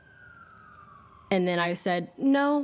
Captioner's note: siren wailing